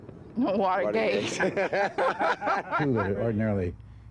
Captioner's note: laughter